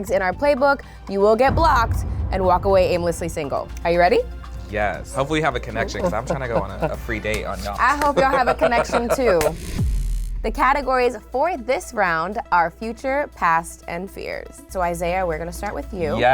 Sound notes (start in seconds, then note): 7.4 laughs; 9.9 neon light buzzes